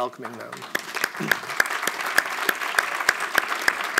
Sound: audience applauds

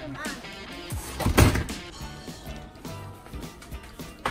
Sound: thud

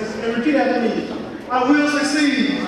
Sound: audience speaking

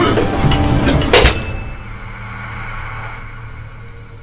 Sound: coughing; blade slicing

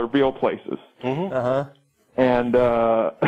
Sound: chuckle

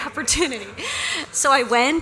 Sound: laughter

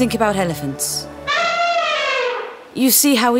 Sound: elephant sound

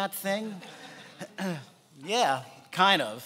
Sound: laughing

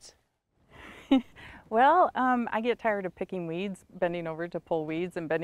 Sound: chuckles

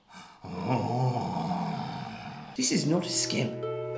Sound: heavy breathing noises

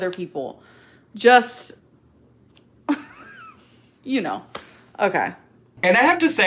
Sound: laughs

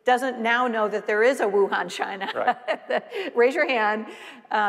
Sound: laughing

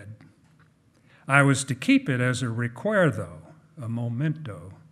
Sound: speaking in foreign language

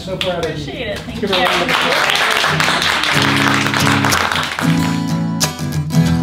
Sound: clapping

